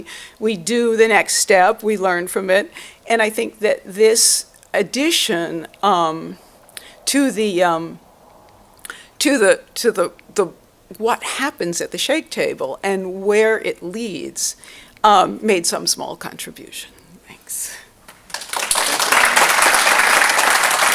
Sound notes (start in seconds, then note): 18.1 applause